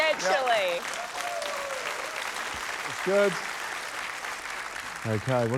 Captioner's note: cheering, applause